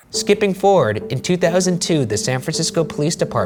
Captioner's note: voiceover